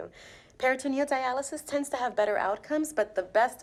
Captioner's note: none